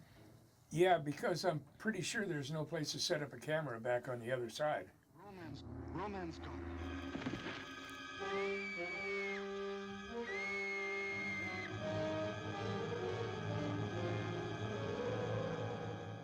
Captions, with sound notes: Roy! Roy! Where's Alice? Ro-Man's... Ro-Man's got her! [Alice screams]